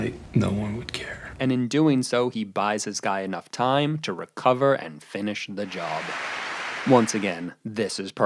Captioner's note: applause